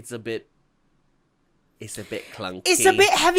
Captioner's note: British accent